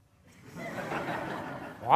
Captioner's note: laughter